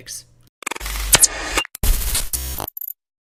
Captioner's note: intro Sounds